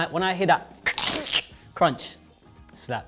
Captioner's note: food crunches; imitates food crunching